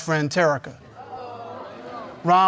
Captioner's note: audience mumbles